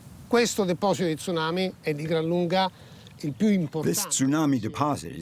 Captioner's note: speaking in foreign language